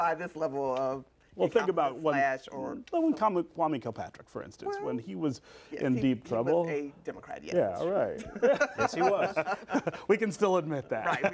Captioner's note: laughter